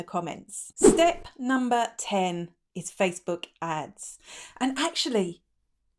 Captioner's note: air whooshing